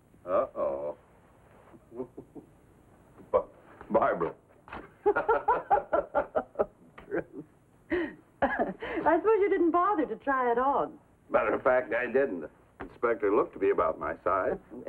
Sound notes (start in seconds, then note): 1.8 laughs; 4.8 both laughing